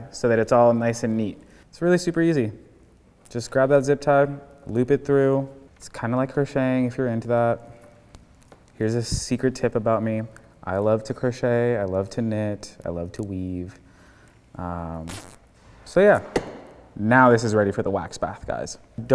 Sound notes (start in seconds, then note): 14.9 zip tie buzzes